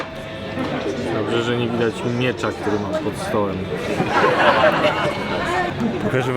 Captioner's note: canned laughter